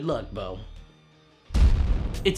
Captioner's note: cannon fire